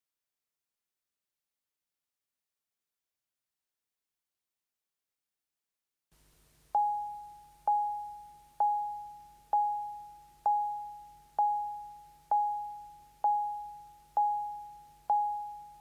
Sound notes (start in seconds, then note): 6.7 tone beeping